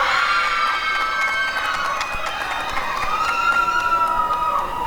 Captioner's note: applause and cheering